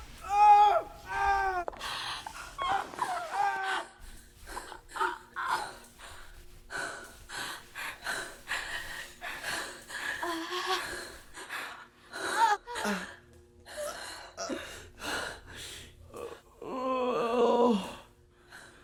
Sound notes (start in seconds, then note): 1.8 Dorothy groaning; 12.7 Phil and Paul groaning